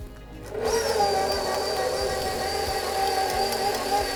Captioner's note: mixer burrs